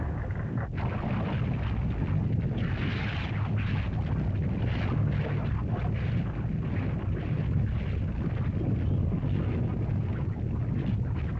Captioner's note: volcano rumbling & lava hissing